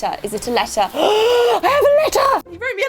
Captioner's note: gasp